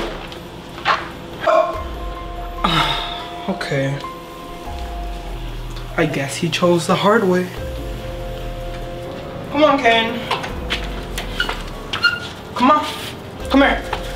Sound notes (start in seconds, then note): 0.1 box thuds; 2.5 sighs; 10.3 door clicks; 11.8 clogs squeaks